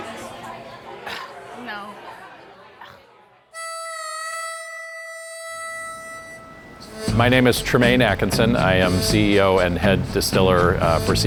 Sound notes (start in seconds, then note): 2.8 coughs; 3.5 harmonica playing